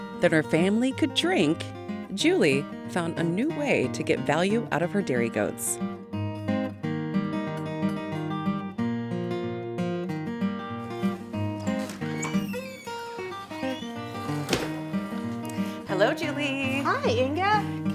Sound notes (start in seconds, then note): 7.3 light melodic music; 11.0 door opens and closes